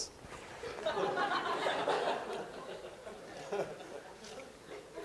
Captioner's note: laughter